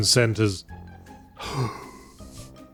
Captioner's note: gasp